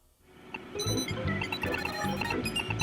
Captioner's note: video game beeping